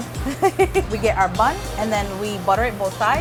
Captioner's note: laughing